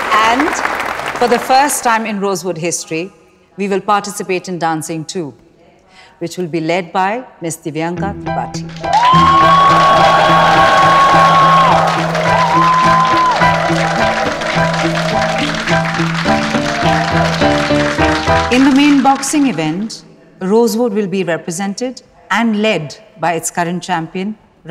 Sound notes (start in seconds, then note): 8.9 All hooting, clapping